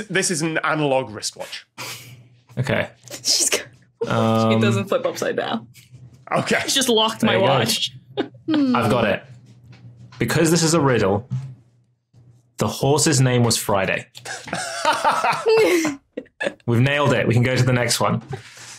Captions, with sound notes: This is an analogue wristwatch. Okay. She's got one. It doesn't flip upside down. Okay. I've just locked my watch. There you go. I've got it. Because this is a riddle... the horse's name was Friday. (laughs) (laughs) We've nailed it. We can go to the next one.